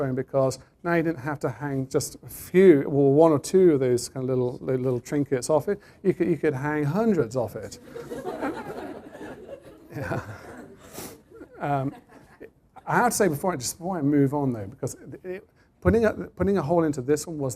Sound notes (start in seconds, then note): 11.6 laughter